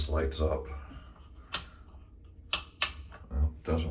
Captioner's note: click